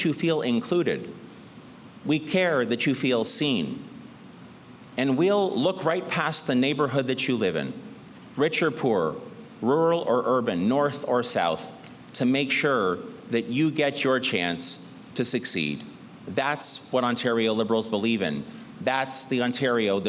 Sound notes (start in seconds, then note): none